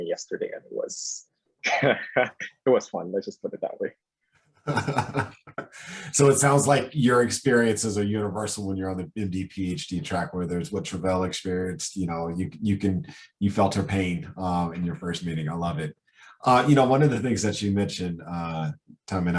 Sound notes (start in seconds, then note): 1.6 laughs; 4.7 laughs